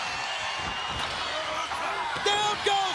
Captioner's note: crowd cheering